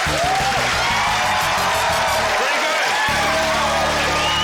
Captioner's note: crowd roars